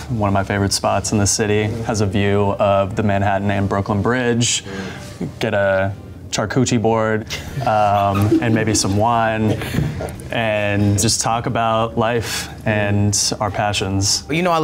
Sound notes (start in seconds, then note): 7.3 contestants laugh; 7.3 laughs